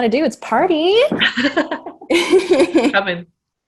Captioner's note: laughter